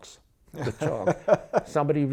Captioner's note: laughs